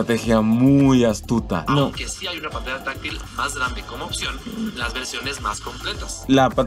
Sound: man speaking in Spanish

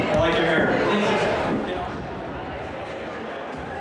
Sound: voiceover

